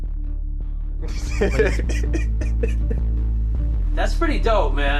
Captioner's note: laughs